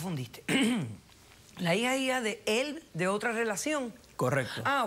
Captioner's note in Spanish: carraspea